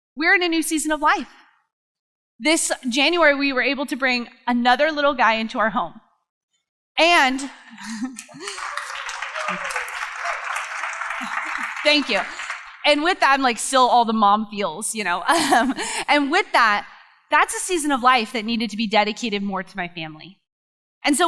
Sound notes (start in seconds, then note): 8.0 crowd applause; 15.3 laughs